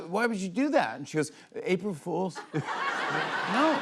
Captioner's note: laughter